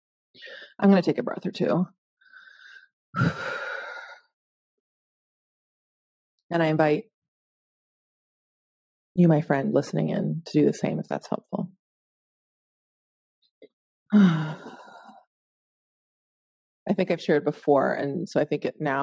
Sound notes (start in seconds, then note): 3.2 exhaling; 14.2 exhaling